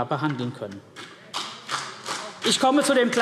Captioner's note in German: Beifall